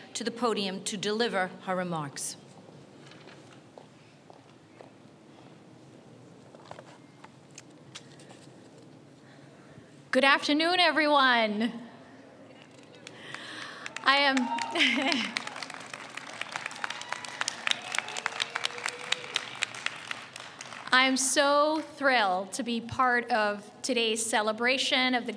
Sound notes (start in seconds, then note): 14.7 audience cheers